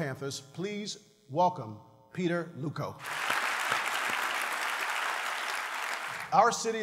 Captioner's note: applause